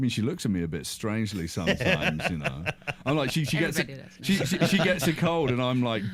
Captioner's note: laughing